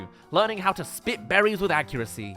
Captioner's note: none